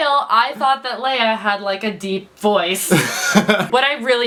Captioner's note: laughs